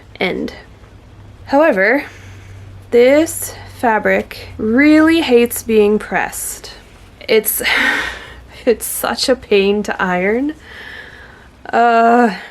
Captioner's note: laughs ruefully; groans